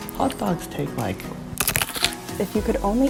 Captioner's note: cronch